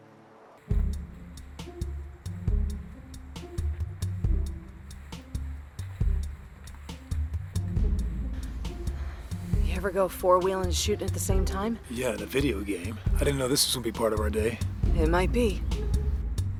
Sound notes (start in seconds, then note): 0.3 quirky instrumental; 7.4 pants gently